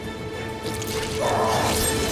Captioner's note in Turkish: İnleme sesi